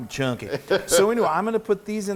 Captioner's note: chuckles